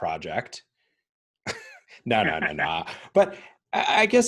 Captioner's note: chuckling